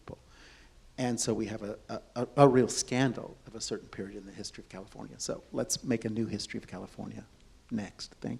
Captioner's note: none